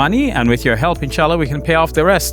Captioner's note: speaks in foreign language